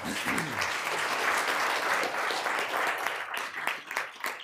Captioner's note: room applauding